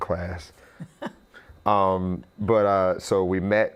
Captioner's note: laughs